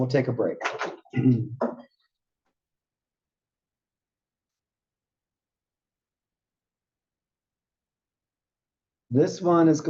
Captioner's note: cough